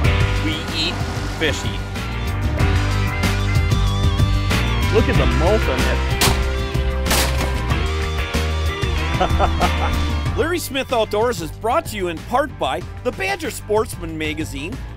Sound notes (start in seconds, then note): 6.2 gunshot; 9.0 laughs